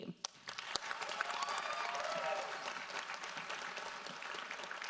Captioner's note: audience applauds